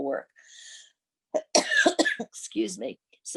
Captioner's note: coughs